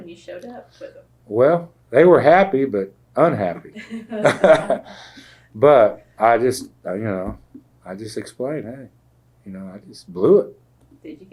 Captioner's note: laughter